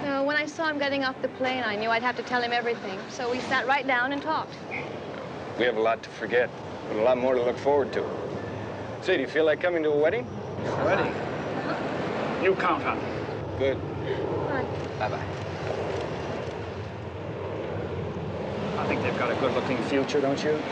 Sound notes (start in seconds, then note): 10.4 chuckles